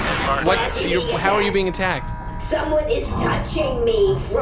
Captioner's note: stops repeating alarm